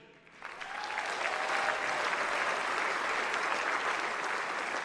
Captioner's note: audience applauds